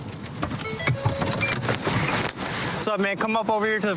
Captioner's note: car notification bell dings